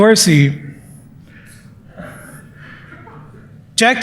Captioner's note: chuckles